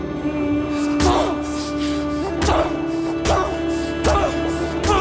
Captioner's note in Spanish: Golpes